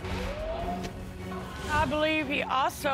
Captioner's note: audience exclaims